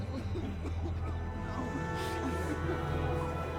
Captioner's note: coughing